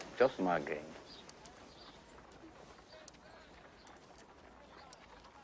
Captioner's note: wagon traffic and chatter in background